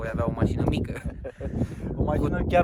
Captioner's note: laughing